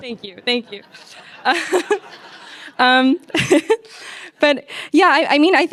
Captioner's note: audience laughs